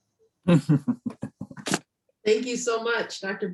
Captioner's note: laughing